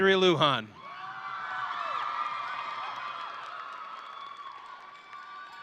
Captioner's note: audience cheering and applauding